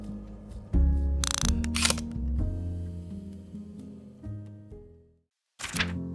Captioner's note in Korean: 다이얼 소리